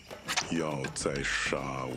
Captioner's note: arrow swish